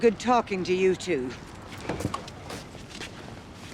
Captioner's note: opens car door